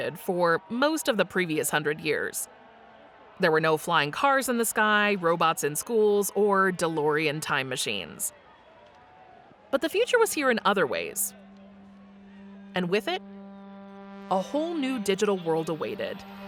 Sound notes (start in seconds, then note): 8.6 crowd cheers